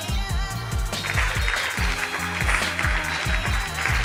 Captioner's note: applause